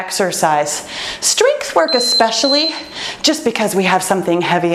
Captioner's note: timer beeps